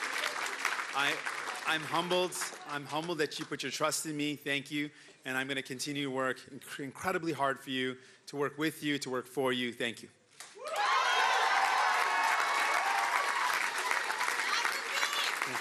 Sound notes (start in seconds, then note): 1.0 cheering and Applause